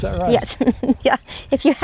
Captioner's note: chuckling